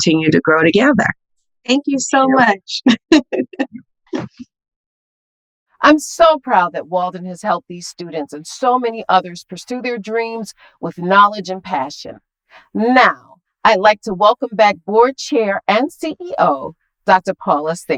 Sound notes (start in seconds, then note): 3.2 laughing